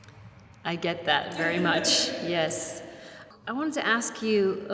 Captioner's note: laughs